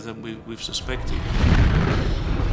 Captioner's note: deep rumble; explosions